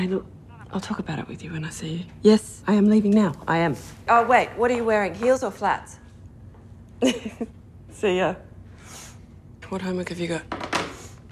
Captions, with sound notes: I'll talk about it with you when I see you- Yes! I am leaving now. I am- Oh wait. What are you wearing heels, or flats? (laughing) See ya. What homework have you got?